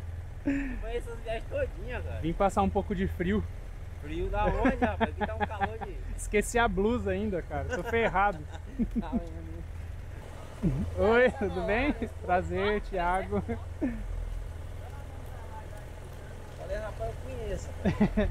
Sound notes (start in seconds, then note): 4.4 laughs